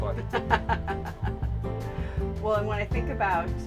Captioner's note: laughs